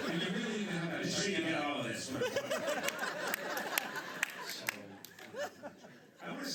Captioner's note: laughter